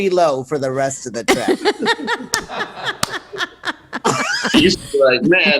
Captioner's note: laughs